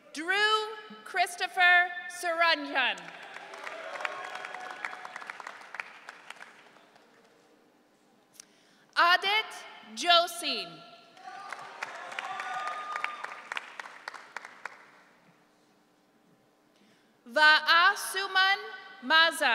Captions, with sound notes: Drew Christopher Saranyan. (audience cheering) Adit Josie. (audience cheering) Vaasumun Maza.